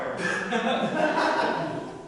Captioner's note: audience laughter